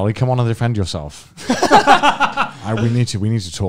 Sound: men laughing

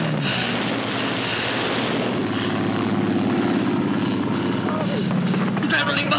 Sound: explosions and aircraft engines

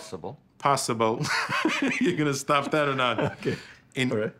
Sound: laughs

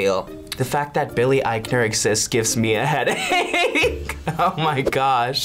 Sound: laughs

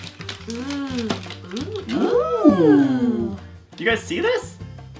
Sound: appreciative exhales

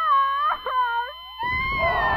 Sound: sobbing

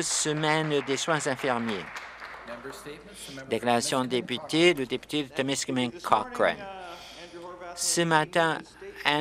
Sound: applause

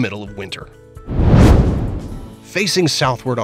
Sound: meteor whooshes

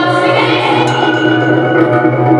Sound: ding!

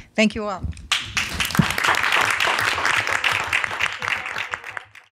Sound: applause

